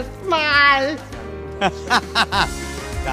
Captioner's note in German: Er lacht